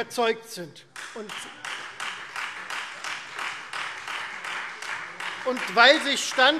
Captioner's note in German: Beifall Freie Demokraten